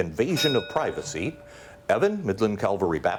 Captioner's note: bell dings